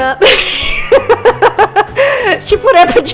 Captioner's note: laughs